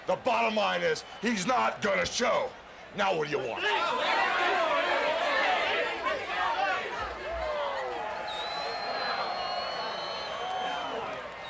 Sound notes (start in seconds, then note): 3.5 people chattering; 8.4 audience cheers